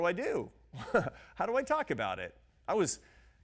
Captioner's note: laughs